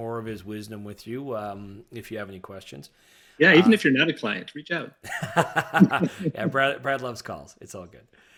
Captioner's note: laughing